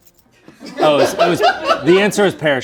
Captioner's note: crew laughs